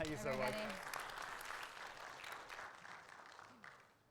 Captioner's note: audience applauds